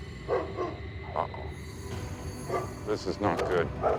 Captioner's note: dog barking